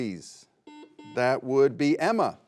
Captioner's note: buzzer beeping